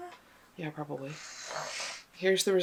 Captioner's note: growls